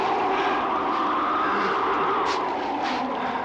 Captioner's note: grunting